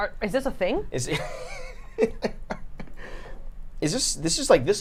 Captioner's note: laughing